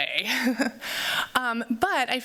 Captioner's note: laughs